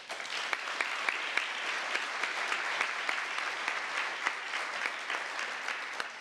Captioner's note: applause